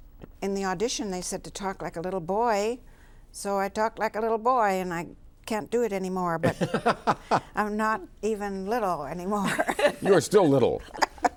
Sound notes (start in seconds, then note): 6.4 laughs; 9.3 both laugh